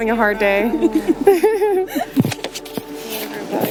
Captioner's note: laughter